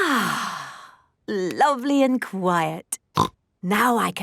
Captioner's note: contented sigh; snorting